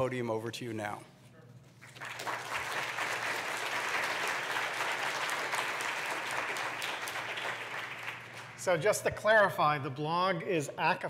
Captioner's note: applause